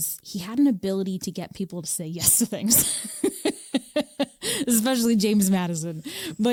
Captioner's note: laughs